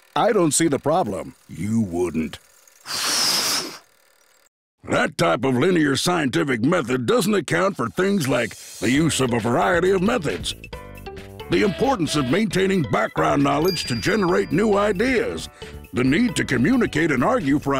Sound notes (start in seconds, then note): 2.8 blows